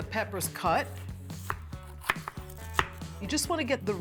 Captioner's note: chopping